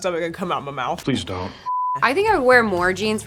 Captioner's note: color bars beeping